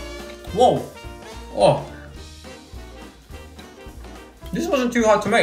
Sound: exclaiming

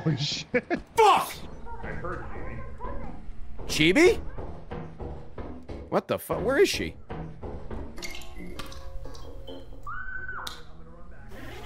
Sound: screams

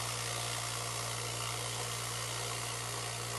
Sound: tumbler buzzing

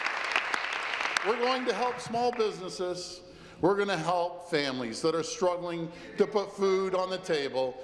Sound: applause

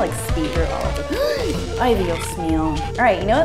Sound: gasps; mutters in Spanish

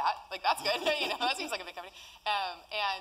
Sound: laugh

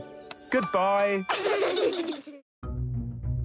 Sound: laughing

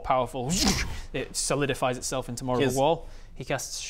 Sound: zoosh

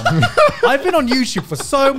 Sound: laughing

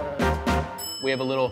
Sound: upbeat music; bell dings

